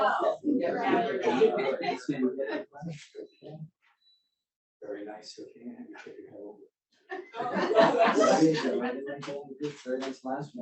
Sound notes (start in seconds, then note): 0.0 audience laughs; 3.3 speaks faintly